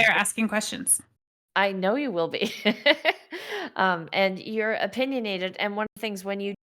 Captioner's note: laughing